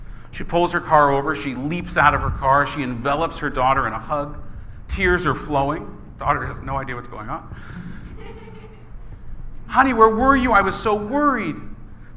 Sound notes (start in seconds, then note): 7.6 laughing